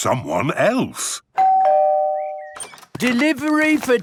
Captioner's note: door bell ringing